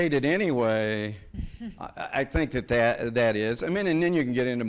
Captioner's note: person chuckles